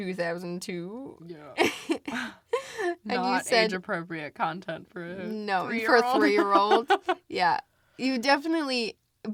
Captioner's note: both chuckle